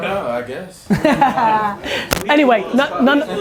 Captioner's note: laughter